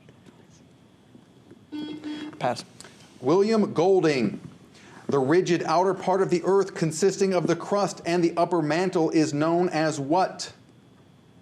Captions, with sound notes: (whispers) (buzzer) - Pass. - William Golding. The rigid outer part of the Earth, consisting of the crust and upper mantle, is known as what?